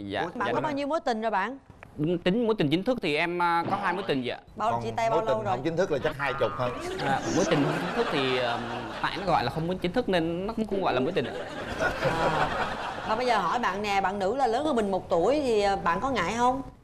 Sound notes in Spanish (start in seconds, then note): 11.2 risas